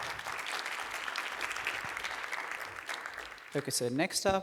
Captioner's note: applause